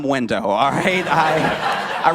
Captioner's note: laughter